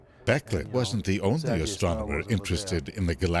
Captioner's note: voiceover